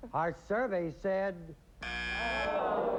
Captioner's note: buzzer